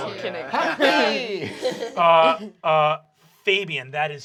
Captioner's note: laughter